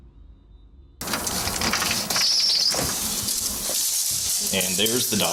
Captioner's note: door opening